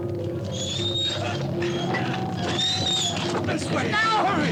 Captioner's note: cart wheels continue creaking